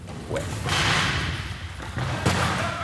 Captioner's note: chairs loudly crashing